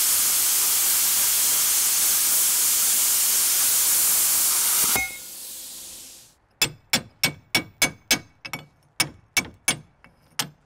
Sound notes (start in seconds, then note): 0.0 welder sputtering; 4.7 metal clanking